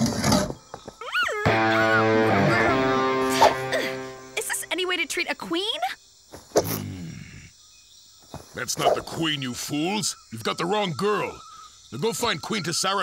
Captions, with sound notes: [muffled shrieks] Is this any way to treat a queen? That's not the queen, you fools! You've got the wrong girl.